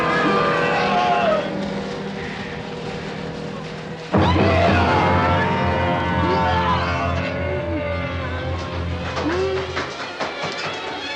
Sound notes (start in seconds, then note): 4.2 screaming